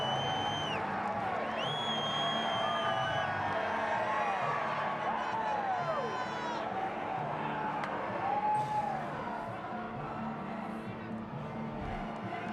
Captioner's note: cheers & applause